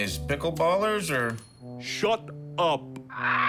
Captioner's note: bird squawks